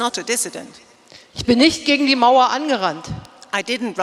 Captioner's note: speaking in German